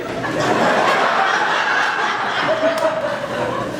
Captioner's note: laughter